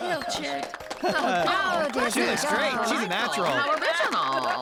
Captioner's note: applause & Approving Chatter